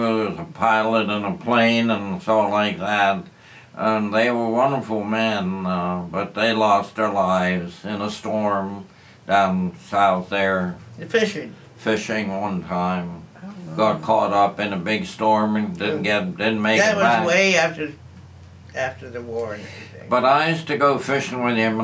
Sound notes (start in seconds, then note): none